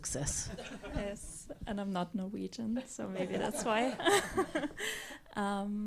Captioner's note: laughs